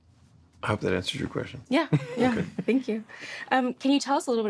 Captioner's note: chuckles